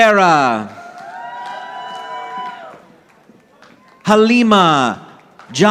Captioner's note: audience applauding